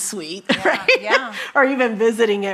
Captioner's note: chuckles